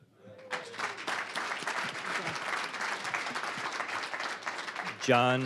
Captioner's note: applause